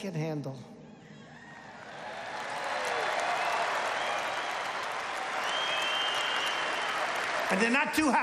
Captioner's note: applause